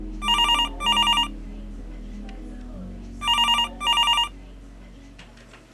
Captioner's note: phone rings